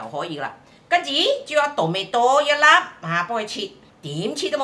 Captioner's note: Cantonese